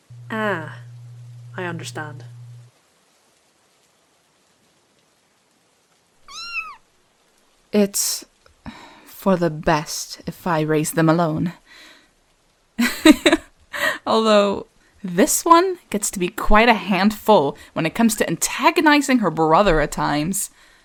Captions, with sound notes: Ah, I understand. *Vivian squeaks* It’s... for the best if I raise them alone. *light laughter* Although, this one gets to be quite a handful when it comes to antagonizing her brother at times.